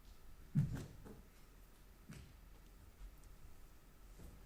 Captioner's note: body thumping